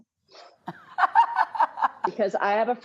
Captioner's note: Rachael laughing